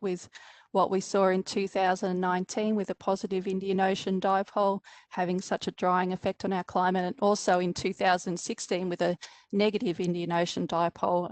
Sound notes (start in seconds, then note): none